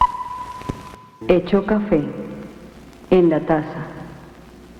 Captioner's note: speaking spanish